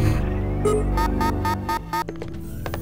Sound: satelite alarm sounds

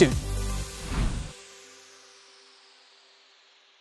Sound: air whooshing

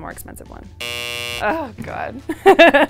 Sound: buzzer sounds

